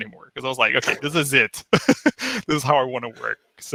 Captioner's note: laughs